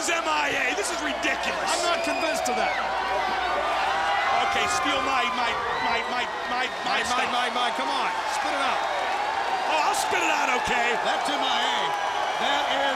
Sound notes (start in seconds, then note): 2.8 crowd chatter